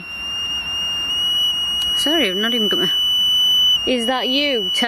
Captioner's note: device continues to chirp